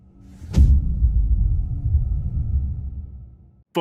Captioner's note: dramatic sound